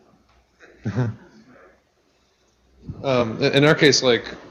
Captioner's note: laughs